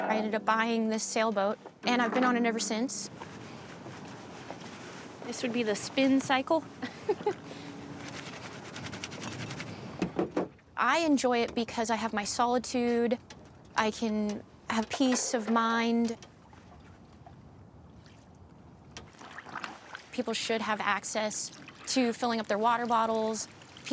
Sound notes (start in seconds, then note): 6.8 laughing; 8.8 wet clothes rubbing